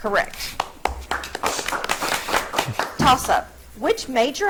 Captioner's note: audience clapping